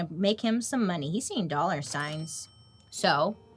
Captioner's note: cash register dings